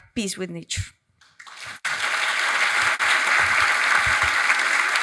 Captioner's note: audience applauds